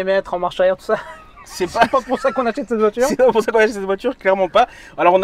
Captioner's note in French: rires